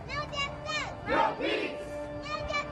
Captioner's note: crowd